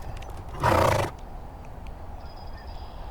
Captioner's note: horse snorts